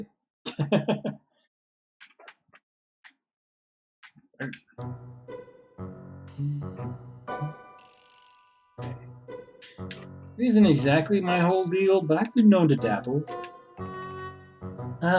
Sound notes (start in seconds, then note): 0.5 chuckles; 7.3 hums